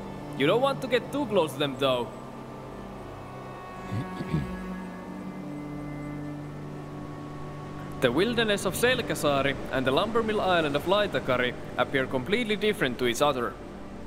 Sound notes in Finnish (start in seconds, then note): 4.0 rykäisee